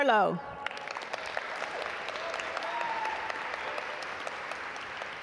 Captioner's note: audience applaud